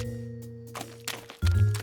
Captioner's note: footsteps